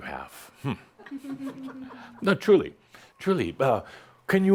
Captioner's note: a few giggles